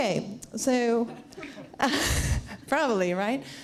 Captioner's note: laughs